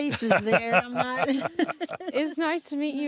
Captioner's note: laughing together